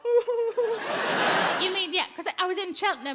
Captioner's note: audience laughs